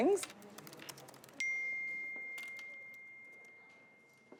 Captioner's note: electronic ding